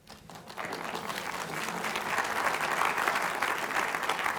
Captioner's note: audience applauds